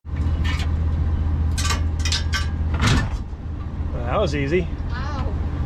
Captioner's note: metal clanking